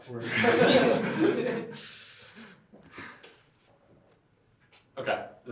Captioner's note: laughter